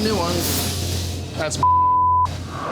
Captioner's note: beep